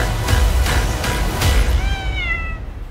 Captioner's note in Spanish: Gato maullando